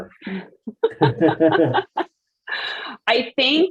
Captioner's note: laughing